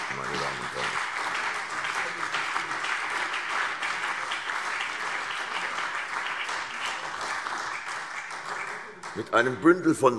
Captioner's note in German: Beifall CDU und BÜNDNIS 90/DIE GRÜNEN